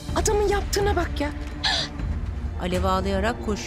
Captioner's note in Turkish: Ağlama sesi